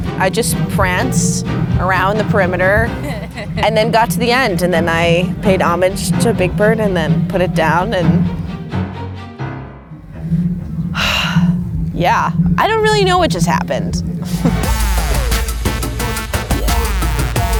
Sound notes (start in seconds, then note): 10.9 sighing; 14.3 upbeat music